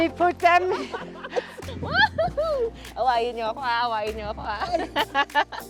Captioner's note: laughs